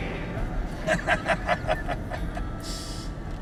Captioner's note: laughing